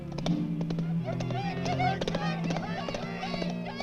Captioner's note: group shouts